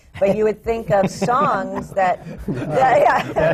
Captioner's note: laughter